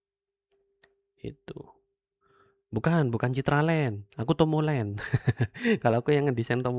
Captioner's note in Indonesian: tertawa